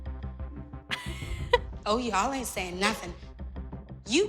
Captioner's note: laughs